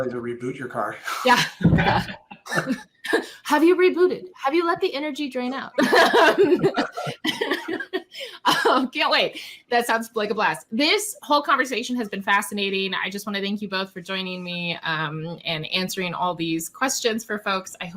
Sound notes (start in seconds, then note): 5.6 laughs